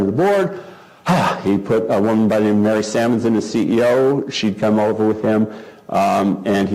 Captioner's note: cough